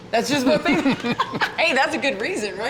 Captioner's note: laughter